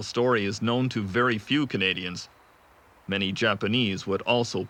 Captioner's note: speaking in foreign language